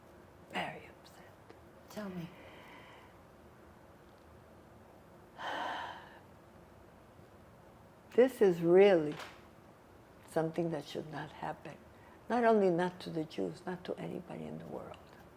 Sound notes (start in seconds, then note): 5.4 sighing